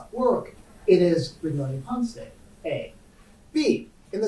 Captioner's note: faintly speaking